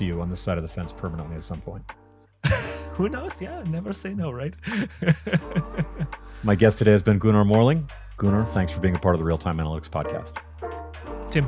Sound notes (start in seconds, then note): 4.6 chuckles